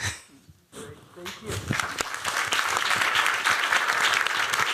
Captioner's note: applause